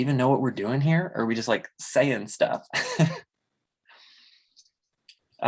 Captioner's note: chuckles